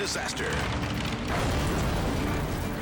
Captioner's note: plane crashes